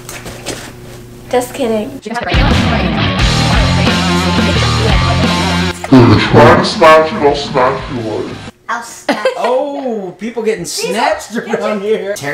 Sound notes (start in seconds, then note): 2.2 heavy metal music; 6.7 slow motion talking